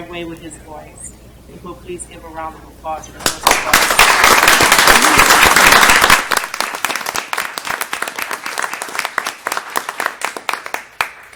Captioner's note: applause